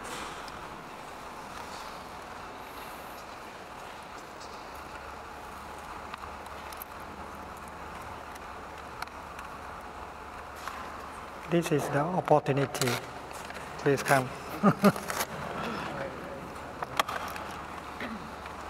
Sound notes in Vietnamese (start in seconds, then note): 14.4 Thầy cười